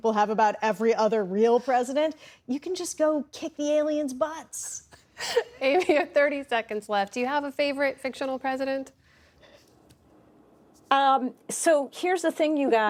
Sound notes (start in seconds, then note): 5.2 laughter